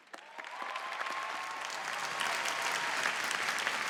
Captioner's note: applause